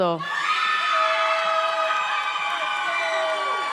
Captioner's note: audience cheers